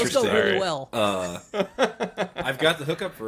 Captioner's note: laughing